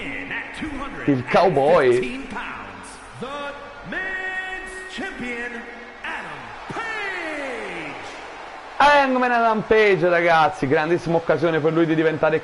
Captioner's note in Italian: Applauso